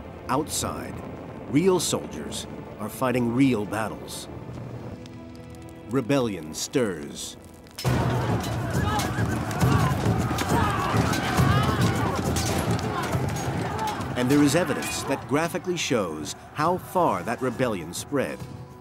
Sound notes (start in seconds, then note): 7.8 weapons clanking; 7.9 soldiers yelling; 10.3 dramatic music